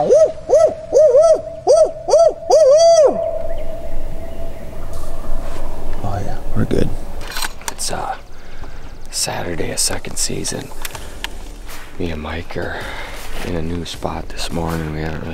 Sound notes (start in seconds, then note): 1.6 man whooping; 4.6 turkeys gobbling